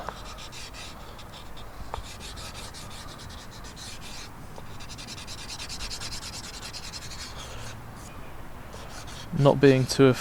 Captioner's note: sketching sounds